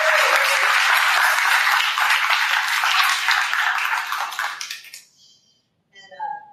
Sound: applause

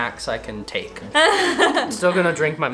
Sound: laughs

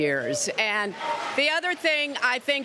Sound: applause

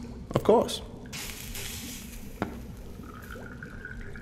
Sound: liquid trickling

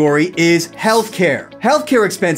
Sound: graphics swish

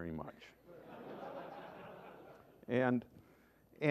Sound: laughter

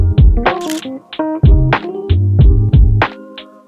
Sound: camera shutter clicks

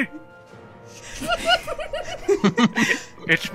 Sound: giggling

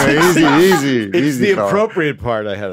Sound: group laughing

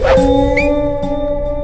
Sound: whistles

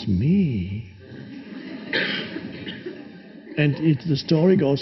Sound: audience laughing

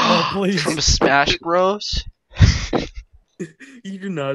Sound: laughs

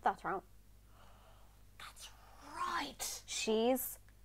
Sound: gasp

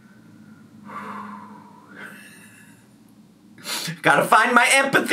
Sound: exhaling

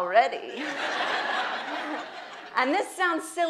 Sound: audience laughs

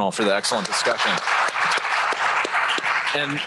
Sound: applause

